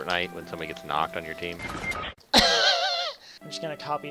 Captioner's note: laughs